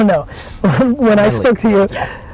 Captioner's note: laughing